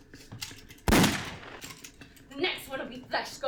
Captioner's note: gun shot